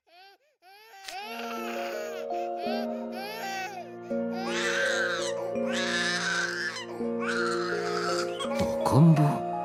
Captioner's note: crying